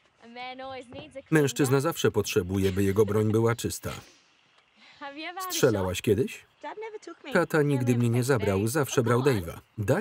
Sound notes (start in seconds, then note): 2.8 laughter